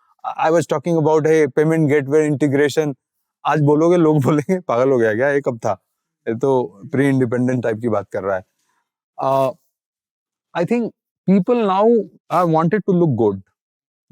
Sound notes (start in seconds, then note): 3.4 speaking in Hindi